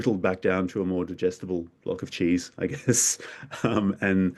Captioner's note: chuckles